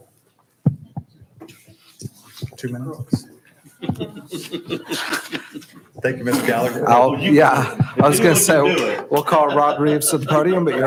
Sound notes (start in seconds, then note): 3.6 board members softly chatter and chuckle